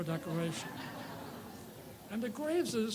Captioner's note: audience laughs